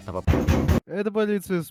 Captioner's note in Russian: агрессивный стук